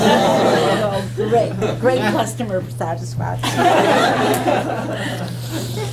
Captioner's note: laughter; laughter